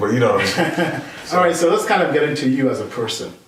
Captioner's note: laughing